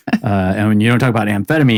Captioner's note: laughing